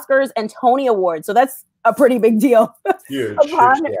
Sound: chuckles

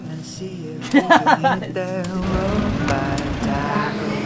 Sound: laughing

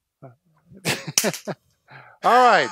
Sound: laughing

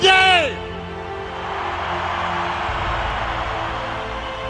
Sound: crowd cheering

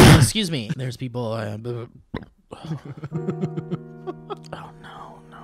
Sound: acid reflux followed by creepy laughter

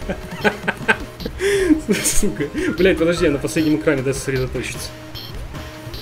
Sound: laughing

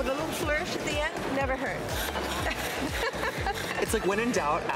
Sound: laughs

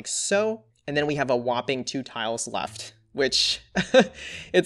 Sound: laughs

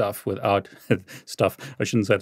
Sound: chuckles

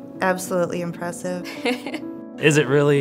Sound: laughs

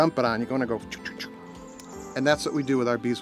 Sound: swishing from his mouth

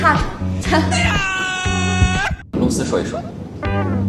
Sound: sneering

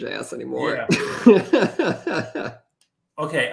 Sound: laughs

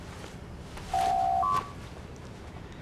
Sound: door Chime

